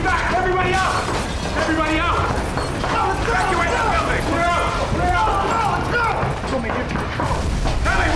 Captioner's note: yelling